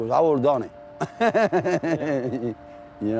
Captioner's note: laughs